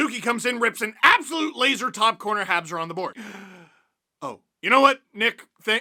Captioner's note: deep breath